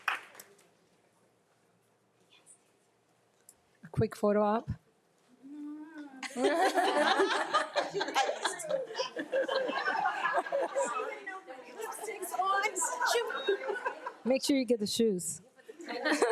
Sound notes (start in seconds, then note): 6.2 group laughing; 9.5 group chattering; 15.7 group laughing